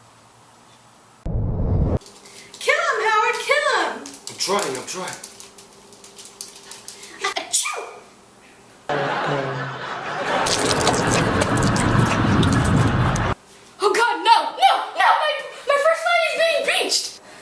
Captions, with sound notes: Kill him Howard, kill him! I'm trying, i'm trying! *raj sneezes* Oh god no, no no. My first line of defense is being breached!